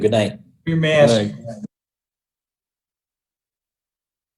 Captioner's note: chattering